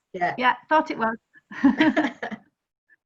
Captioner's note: laughter